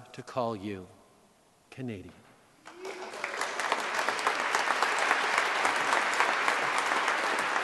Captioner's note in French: Applaudissements